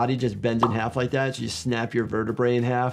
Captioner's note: graphics popping